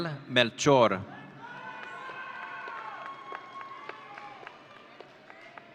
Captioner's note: audience cheering